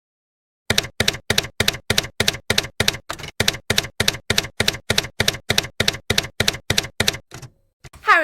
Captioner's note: typewriter keys clacking